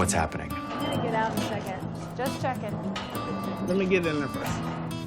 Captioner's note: chattering